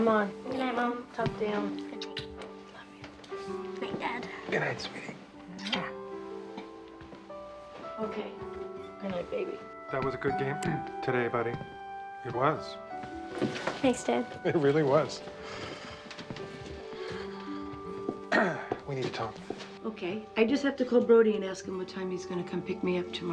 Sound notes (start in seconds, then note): 18.3 clears throat